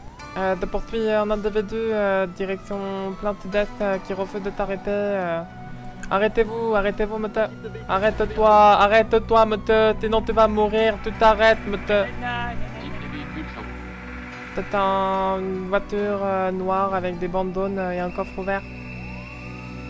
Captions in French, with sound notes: - Je poursuis un individu direction plein Sud-Est qui refuse de s'arrêter - Arrêtez vous ! Arrêtez vous monsieur ! - Arrête toi ! Arrête toi monsieur, sinon tu vas mourir ! - Tu t'arrêtes ! -Gnagnagna (dans la radio) -C'est quel type de véhicule Chang ? - C'est un... C'est une voiture noire avec des bandes jaunes et un coffre ouvert